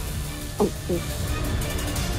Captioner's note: gulps